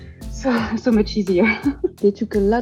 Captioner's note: laughs